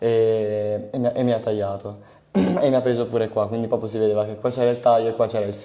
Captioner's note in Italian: schiarire la voce